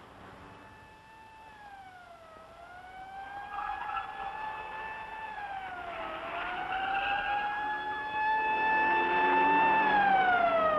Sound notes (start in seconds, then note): 1.5 siren blaring; 3.4 tires screeching